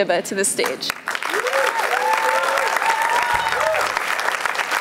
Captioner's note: applause